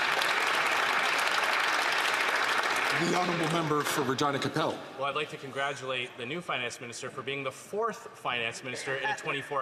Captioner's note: some Applause